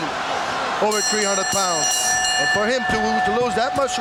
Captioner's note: bell ringing